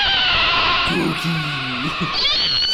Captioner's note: as Cookie Monster